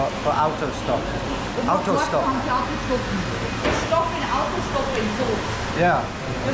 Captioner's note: vendor speaking disapprovingly